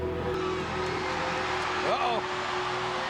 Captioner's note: bell tolls; crowd cheers